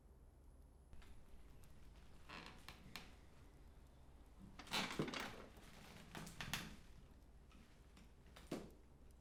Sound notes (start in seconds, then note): 2.4 chair creaking